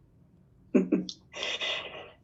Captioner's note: laughs